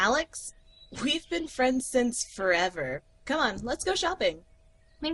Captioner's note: Alex, dull tone